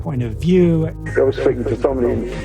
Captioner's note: soundbite of archived recording